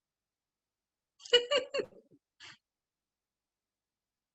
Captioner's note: laughs